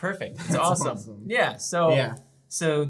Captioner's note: chuckles